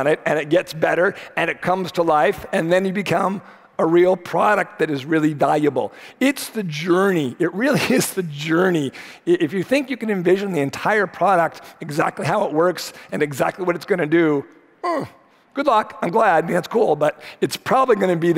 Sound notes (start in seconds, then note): 15.0 grunts